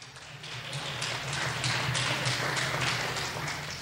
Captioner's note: clapping